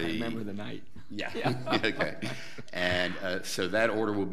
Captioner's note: laughing